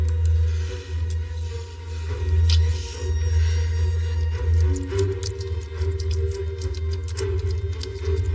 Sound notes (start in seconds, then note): 4.4 typing